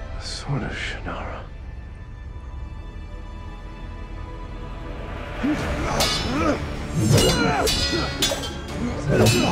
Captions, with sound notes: The Sword of Shannara. (BOTH GRUNTING)